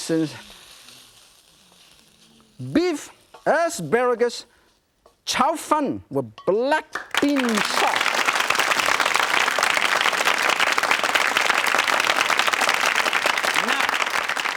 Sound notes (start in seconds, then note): 6.9 audience clapping